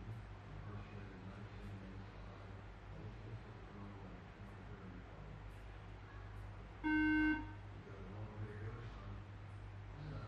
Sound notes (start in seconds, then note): 6.8 beep beep